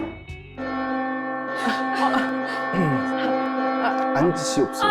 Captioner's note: the bell of truth rings nonstop